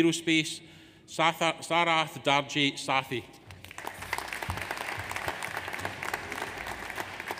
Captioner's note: audience applauds